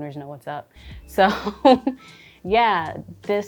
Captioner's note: chuckling